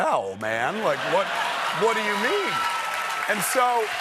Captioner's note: cheers and applause